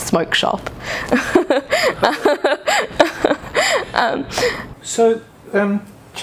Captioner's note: laughs